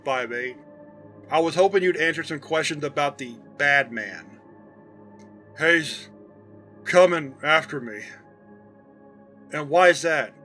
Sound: slightly slurred

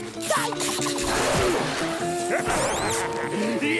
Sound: laughing

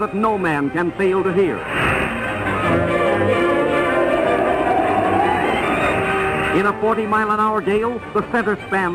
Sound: wind noise

